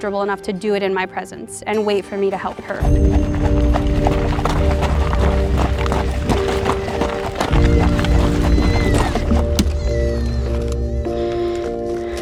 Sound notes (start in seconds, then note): 1.8 running footsteps